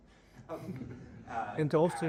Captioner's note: laughing